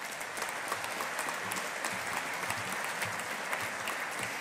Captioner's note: audience applauding